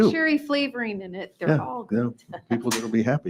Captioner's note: laughs